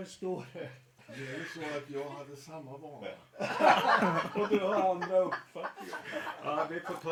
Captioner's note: laughter